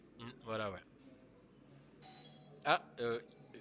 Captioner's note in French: sonnerie de porte